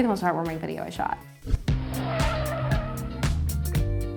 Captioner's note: car tires squealing; calm music